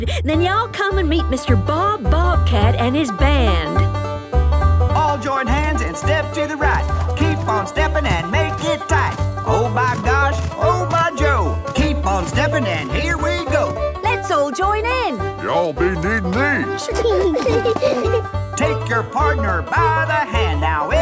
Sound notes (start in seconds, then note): 16.4 laughing